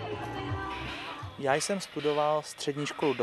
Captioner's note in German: Regelmäßiges Zischen